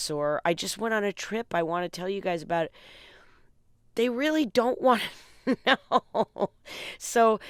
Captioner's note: laughter